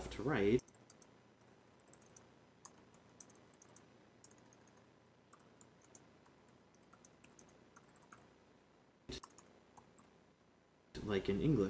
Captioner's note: typing